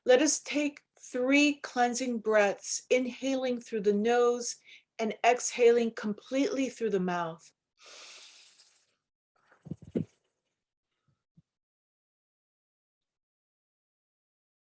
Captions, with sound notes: Let us take three cleansing breaths, inhaling through the nose and exhaling completely through the mouth (inhaling).